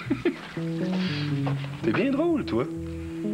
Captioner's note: Rires